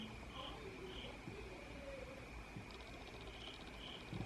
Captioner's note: literally crickets chirping